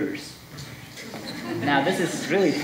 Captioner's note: audience laughing